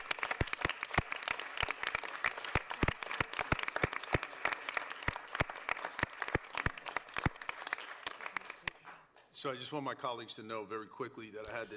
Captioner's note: applause